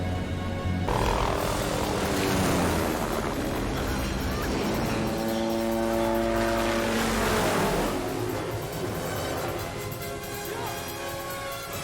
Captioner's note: helicopter noise